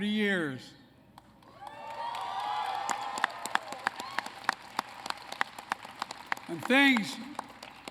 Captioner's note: applause